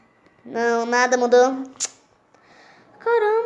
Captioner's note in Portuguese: clique bucal